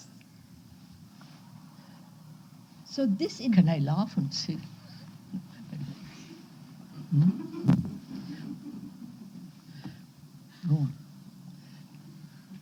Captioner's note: laughter